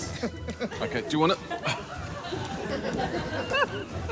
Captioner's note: laughs; strains